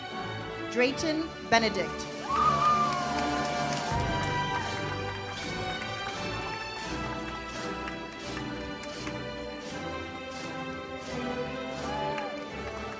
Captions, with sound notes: Drayton Benedict. (audience cheers) (uplifting music)